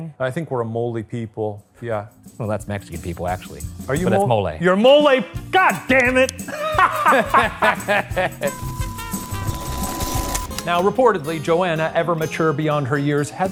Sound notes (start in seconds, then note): 6.4 both laughing